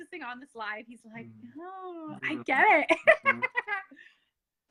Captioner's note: laughs